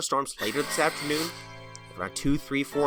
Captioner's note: gasps